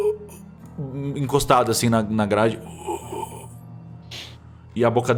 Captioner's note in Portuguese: gemidos; gemidos